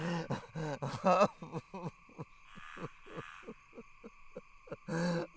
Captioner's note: Dogmouth grunts; Dogmouth sobbing and gasping